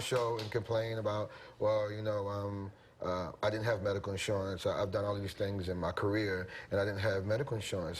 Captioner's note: applause